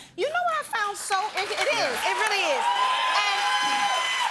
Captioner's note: cheers and applause